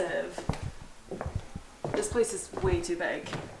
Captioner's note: footsteps